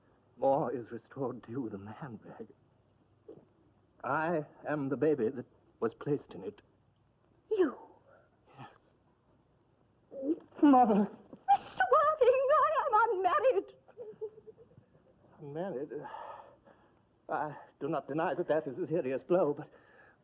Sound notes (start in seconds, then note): 16.0 sigh